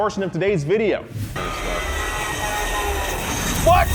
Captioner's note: frantic screaming; horn honking